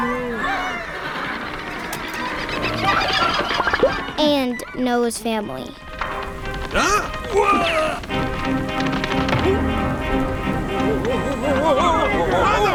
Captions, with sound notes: (animal noises) and Noah's family. (startled exclamation)